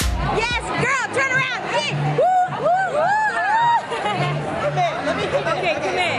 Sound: cheering

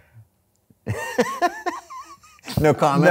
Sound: laughing

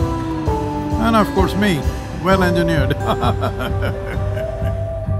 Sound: laughs

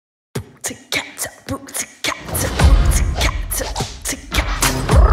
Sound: beatboxing

